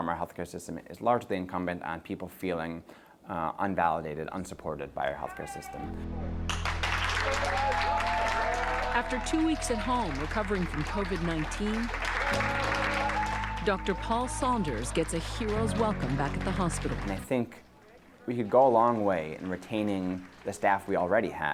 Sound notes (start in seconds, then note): 5.7 people clapping; 12.3 gentle music